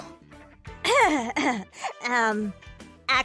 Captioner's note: cough